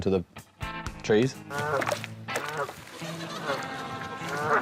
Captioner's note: ducks quack